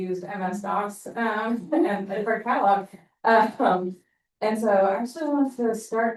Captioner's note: chuckling